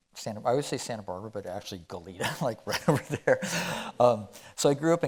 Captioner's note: chuckling